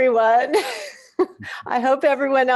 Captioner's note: chuckles